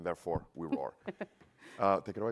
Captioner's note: laughter